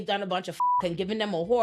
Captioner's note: beep